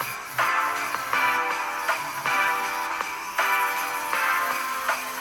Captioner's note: dremel buzzing